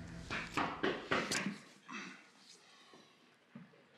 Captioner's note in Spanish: Toques en la puerta